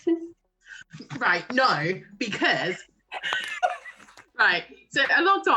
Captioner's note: laughter